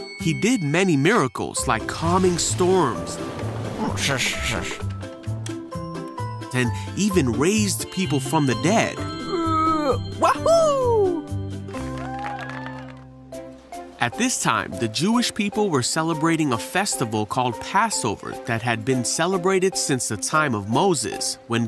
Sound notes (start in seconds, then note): 3.7 grumbling; 9.2 groans; 11.7 applause